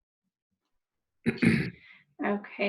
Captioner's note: clears throat